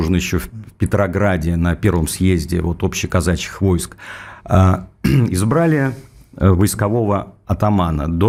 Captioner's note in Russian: откашливается